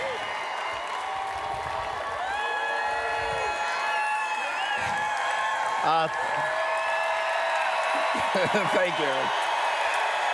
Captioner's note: cheers